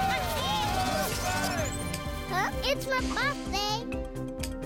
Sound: residents cheering; clicking

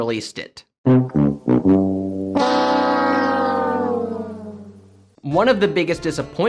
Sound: The Price is Right Losing Horn

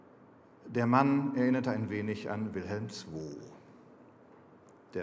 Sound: speaking German

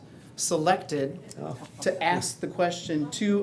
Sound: appreciative murmurs

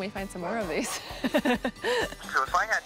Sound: laughing

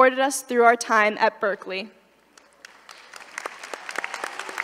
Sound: applause

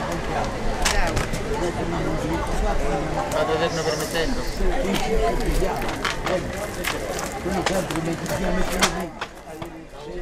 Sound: murmur

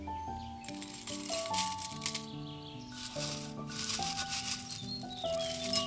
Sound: leaves rustle

